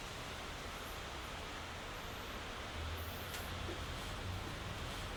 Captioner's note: street noise